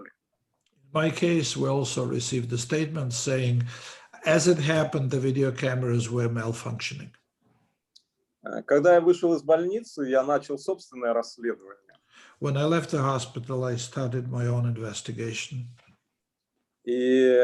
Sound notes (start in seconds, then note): 8.9 speaking Russian language